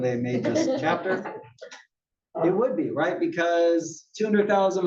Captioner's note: laugh